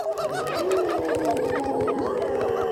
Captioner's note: hooting; growling; roaring